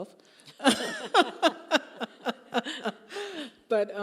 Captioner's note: both laughing